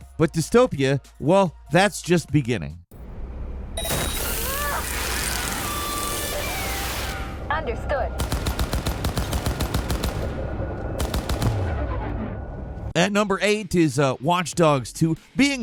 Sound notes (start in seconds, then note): 3.7 machinery beeping; 8.2 gun firing